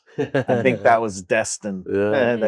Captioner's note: chuckles